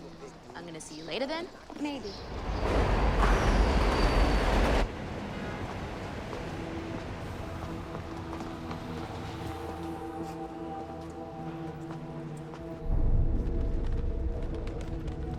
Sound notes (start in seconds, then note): 2.7 subway cars rumbling; 10.2 ominous music